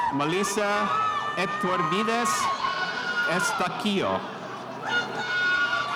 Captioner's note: spectators cheering